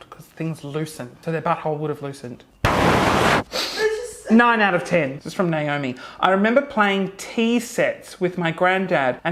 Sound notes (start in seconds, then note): 2.9 exhaling loudly; 3.7 inhales deeply